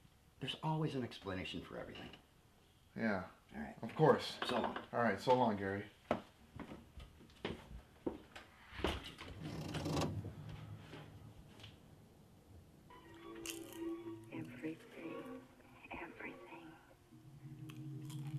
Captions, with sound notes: there's always an explanation for everything yeah... of course - so long - alright so long, Gary [loud creak] [TV plays in background]